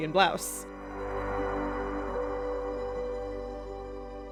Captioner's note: wind howls. much scary!